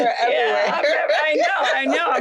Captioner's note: laughter